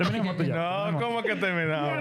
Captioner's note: speaking In Foreign Language